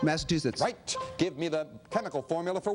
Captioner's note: beeping